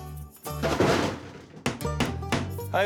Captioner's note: thud